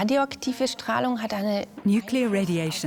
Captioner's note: in German; dubbed in English